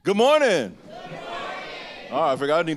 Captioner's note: shouting